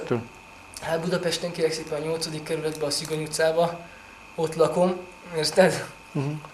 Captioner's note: laughs